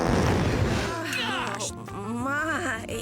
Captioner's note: Grandma-ma breaks wind; explosion